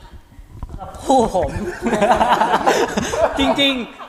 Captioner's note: laugh